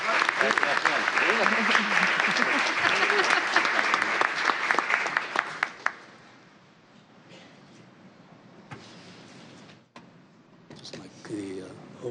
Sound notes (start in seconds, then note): 0.0 applause